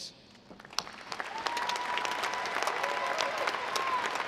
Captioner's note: audience applauding